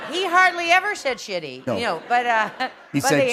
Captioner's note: laughter